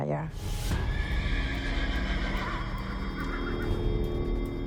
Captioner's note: horses whinnying